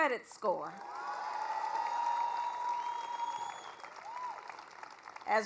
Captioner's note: applause